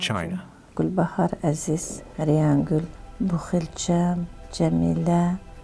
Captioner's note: speaking foreign language